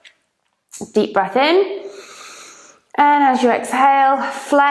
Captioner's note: breathes deeply